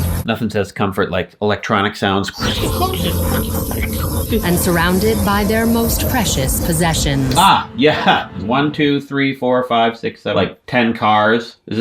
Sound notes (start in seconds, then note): 2.3 electronic zipping; 2.7 swelling music